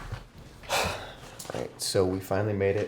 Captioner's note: suspirando